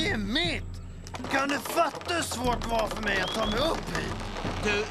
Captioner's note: creaking